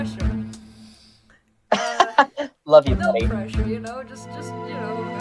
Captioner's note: laughs